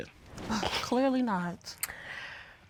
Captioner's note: scoffs